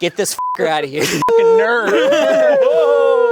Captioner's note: beep